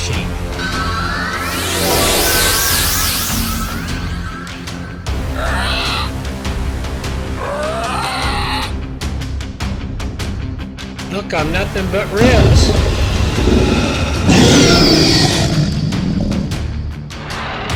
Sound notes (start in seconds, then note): 0.0 time Travel Sounds; 4.7 roar & Prehistoric Sounds; 12.1 roar & Prehistoric Sounds